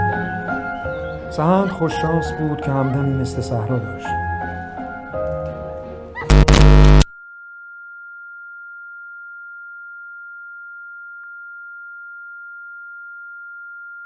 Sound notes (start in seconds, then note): 6.3 sudden loud screeching noise; 7.3 high-pitched piercing whistle